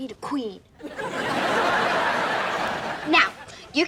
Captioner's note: laughs